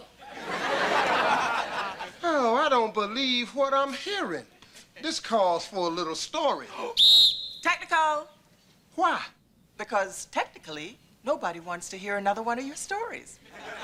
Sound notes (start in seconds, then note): 0.2 audience laughter; 6.9 whistle blows